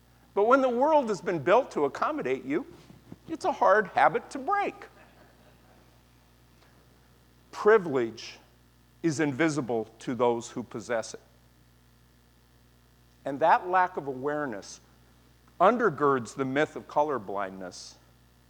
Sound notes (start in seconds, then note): 4.9 laughter